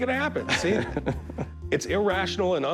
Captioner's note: chuckles